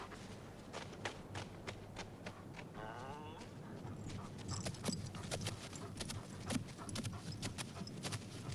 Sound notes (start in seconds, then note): 3.1 Beast whines